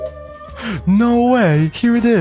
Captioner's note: gasp